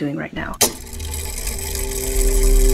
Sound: mechanism whirring

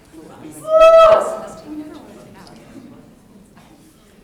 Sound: person cheers

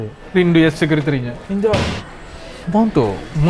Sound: loud bang

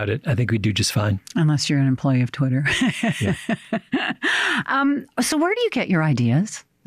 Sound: chuckles

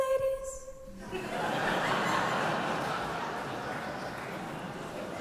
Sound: audience laughing

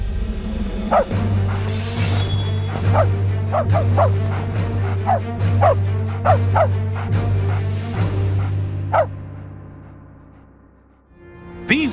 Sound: dog bark

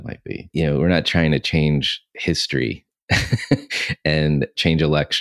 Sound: laughs

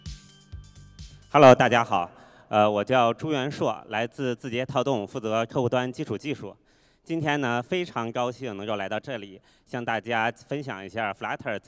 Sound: non-english speech

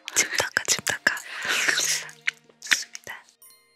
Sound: slurp~

